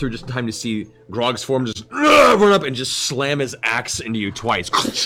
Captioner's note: roaring